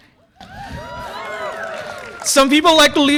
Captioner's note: audience applause and cheer